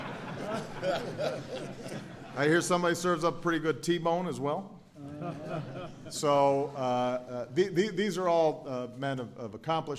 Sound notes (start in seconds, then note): 5.0 laughter